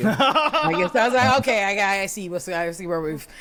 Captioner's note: laughing